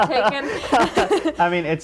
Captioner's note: laughing